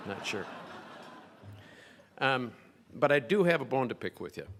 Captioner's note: crowd laughing